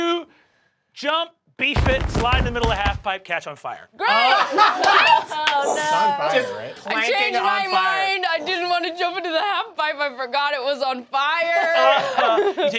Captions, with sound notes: - You jump, beef it, slide in the middle of the half pipe, catch on fire. - Great! (laughing) - What? - Oh, no. - Just planking on fire. - I change my mind. I didn't want to jump into the half pipe, I forgot it was on fire!